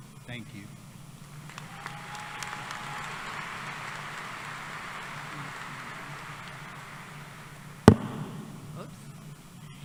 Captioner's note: applause